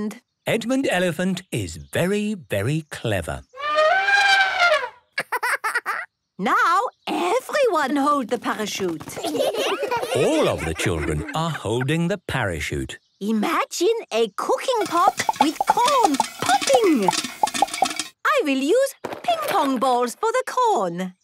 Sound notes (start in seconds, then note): 3.3 laughing; 3.5 trumpeting; 9.1 laughter